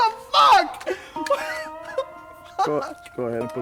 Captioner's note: whimpering